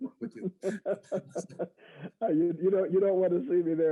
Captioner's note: laughs